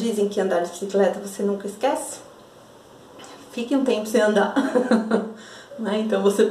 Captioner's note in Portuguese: riso